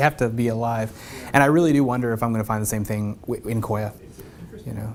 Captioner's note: laugh